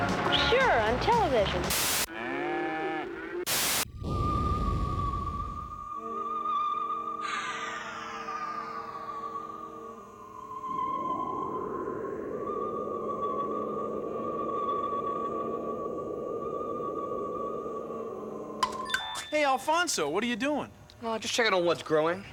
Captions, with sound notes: SURE, ON TELEVISION. [ MOOING ] [ SUSPENSEFUL MUSIC PLAYS ] HEY, ALFONSO, WHAT ARE YOU DOING? JUST CHECKING ON WHAT'S GROWING --